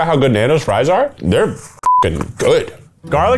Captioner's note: beep; upbeat country music